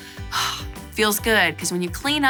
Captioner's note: sighs